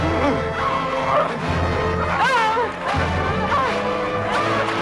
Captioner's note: both grunting